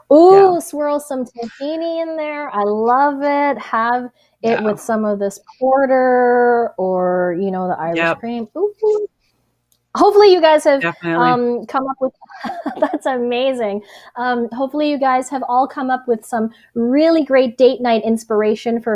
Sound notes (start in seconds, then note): 9.0 cheers; 12.2 laughs